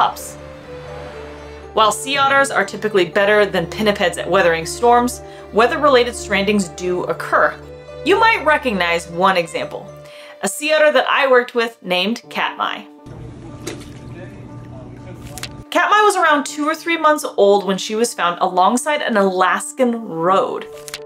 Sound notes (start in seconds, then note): 0.2 waves crashing sound; 0.3 background music; 13.0 background chatter; 13.0 background music; 13.3 gentle water splashing sounds